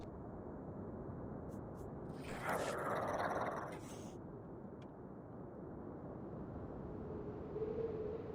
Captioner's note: growling